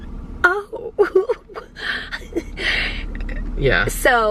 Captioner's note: chuckling